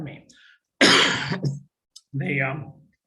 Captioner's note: coughing